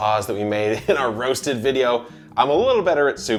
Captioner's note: chuckles